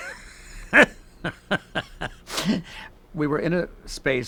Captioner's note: laughing